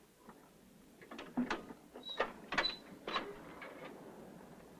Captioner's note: clank